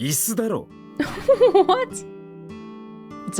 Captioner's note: chuckles